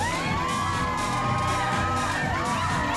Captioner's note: overlapping chatter